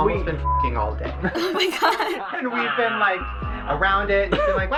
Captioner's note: laughs